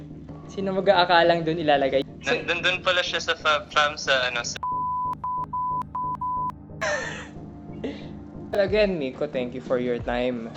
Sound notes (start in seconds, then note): 5.0 toooot toot toot toot toot; 6.8 laughs